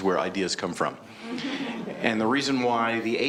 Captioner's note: audience member laugh lightly